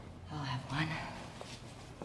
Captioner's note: pat